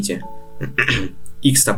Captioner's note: clears throat